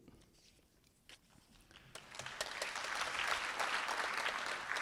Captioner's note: applause